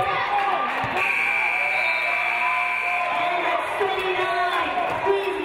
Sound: game buzzer buzzes

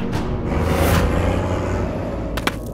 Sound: tractor engine rumbling

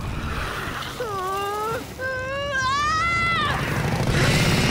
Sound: screaming; roaring

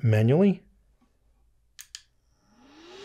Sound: click; fan whirs

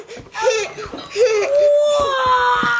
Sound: giggling

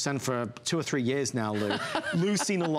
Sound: laughter

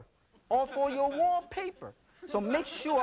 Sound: audience laughing

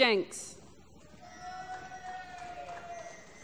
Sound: applause

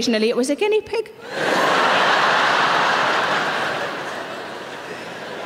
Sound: audience laughing

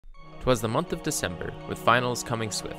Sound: christmas Movie Narrator Voice

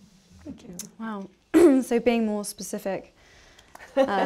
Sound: laughter

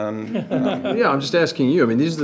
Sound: board laughs

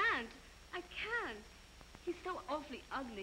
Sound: none

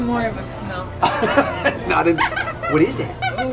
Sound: laughs

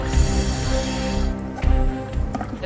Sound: Aqualung breathing

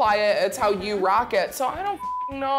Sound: beep

